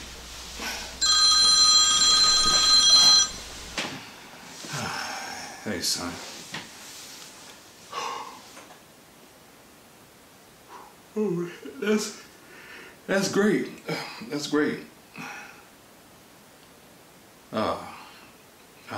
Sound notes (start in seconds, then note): 9.0 sighs